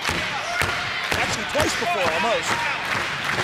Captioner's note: crowd cheering